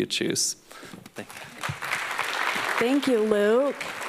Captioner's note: applause